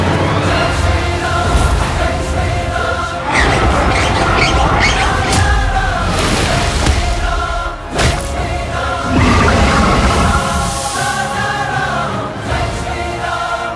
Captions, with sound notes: "Jai Shri Ram! Jai Shri Ram!" "Jai Shri Ram! Jai Shri Ram! Hail King Rama" [sea monster growls]